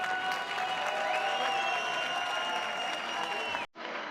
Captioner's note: cheering; applause